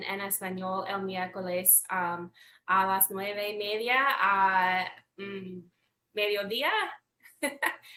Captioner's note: speaks Spanish; laughs